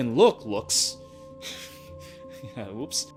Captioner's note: laughs